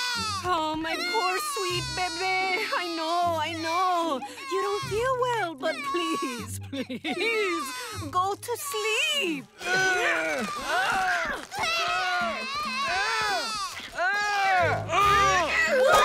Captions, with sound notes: Oh, my poor sweet baby. I know, I know. You don't feel well, but, please, please. go to sleep. [grunting] [crying] [grunting]